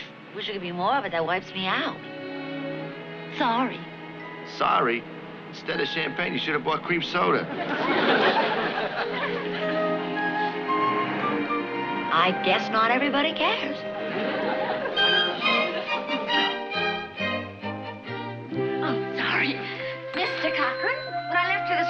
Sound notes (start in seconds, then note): 20.1 bell dings